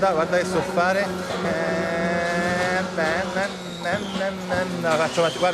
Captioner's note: imitates racing car's sound